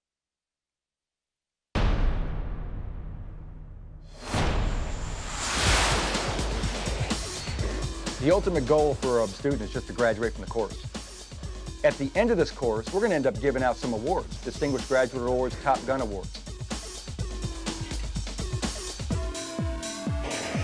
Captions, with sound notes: (jet engine roaring) (fast paced music) - The ultimate goal for a student is just to graduate from the course. At the end of this course, we're gonna end up giving out some awards, distinguished graduate awards, Top Gun awards. (fast paced music)